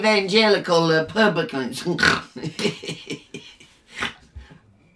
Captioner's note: giggles